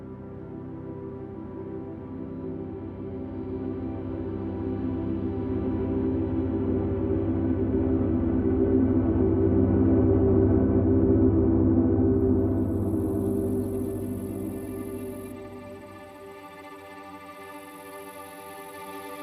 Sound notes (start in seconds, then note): 12.3 insects chirp